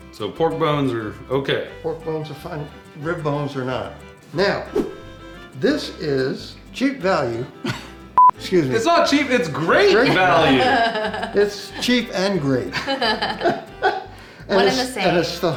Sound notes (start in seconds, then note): 8.1 beeps; 9.9 laughs; 13.8 laughs